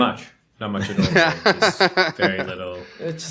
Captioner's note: laughter